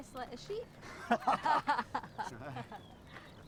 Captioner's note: all laugh